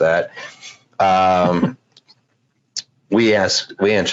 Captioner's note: laughs